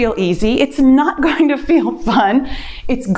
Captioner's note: laughs